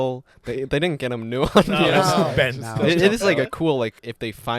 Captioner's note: laughter